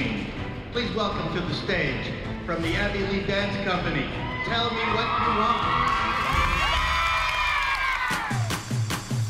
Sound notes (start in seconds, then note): 6.0 cheering